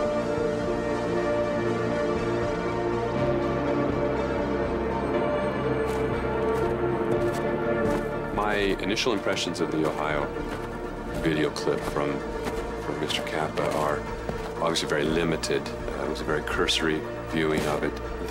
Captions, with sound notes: (mysterious music continues) (undergrowth crunching) - My initial impressions of the Ohio video clip from Mr. Kappa are obviously very limited. It was a very cursory viewing of it.